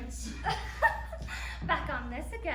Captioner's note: laughter